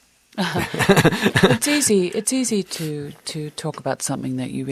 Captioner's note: laughter